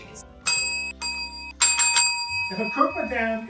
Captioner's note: ding